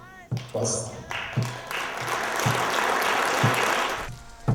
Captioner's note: applause